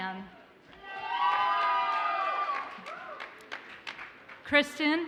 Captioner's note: audience cheers and applauds